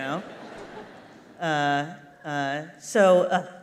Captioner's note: laughter